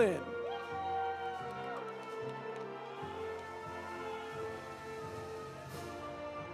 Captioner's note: audience cheering; audience applauding